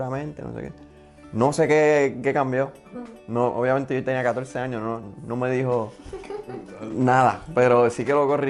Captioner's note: laughs